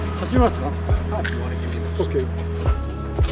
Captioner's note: speaking Japanese